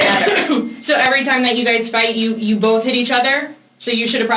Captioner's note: coughs